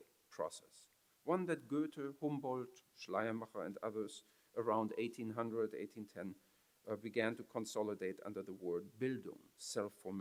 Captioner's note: foreign language